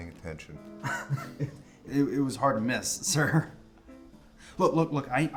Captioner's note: laughs